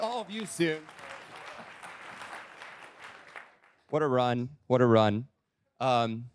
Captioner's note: applause